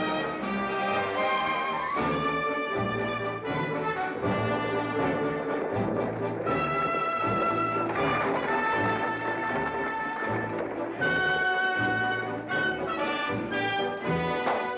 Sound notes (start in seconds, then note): 3.9 buggy rattling; 11.0 triumphant music